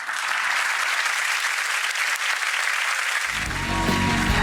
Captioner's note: audience applause